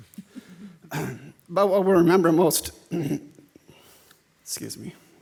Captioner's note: clears throat